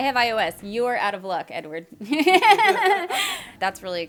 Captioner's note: laughing